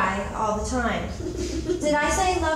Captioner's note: audience chuckles